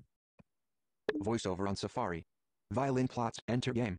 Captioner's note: voiceover